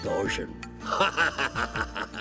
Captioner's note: laughing